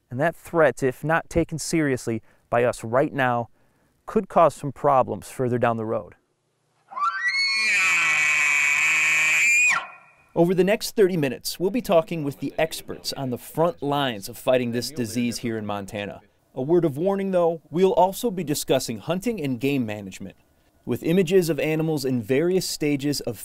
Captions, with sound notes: BUT SADLY IT'S ALSO A RESOURCE THAT IS CURRENTLY UNDER ATTACK BY AN ALMOST INVISIBLE THREAT. THAT THREAT IF NOT TAKEN SERIOUSLY BY US RIGHT NOW COULD CAUSE PROBLEMS FURTHER DOWN THE ROAD [ANIMAL SOUNDS] OVER THE NEXT 30 MINUTES WE'LL BE TALKING WITH THE EXPERTS ON THE FRONT OF THE LINES OF FIGHTING THIS DISEASE HERE IN MONTANA.